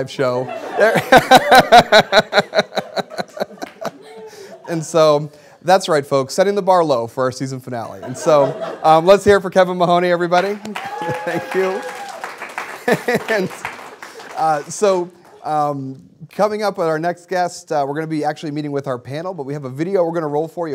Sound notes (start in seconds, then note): 3.2 laughing; 10.4 applause